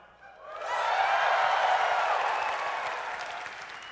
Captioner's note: audience cheers